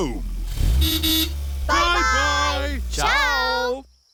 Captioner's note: horn toots